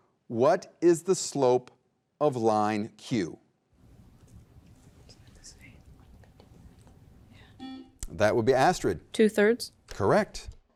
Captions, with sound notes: what is the slope of line Q? - (whispers) It's about the same. (button beeping) - That would be Astrid - Two thirds. - Correct.